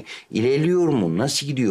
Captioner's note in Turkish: none